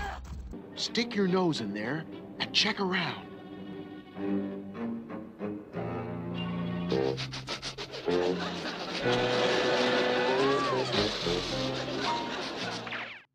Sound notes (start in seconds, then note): 4.2 dramatic music; 7.0 Scooby-Doo sniffing; 7.0 audience laughing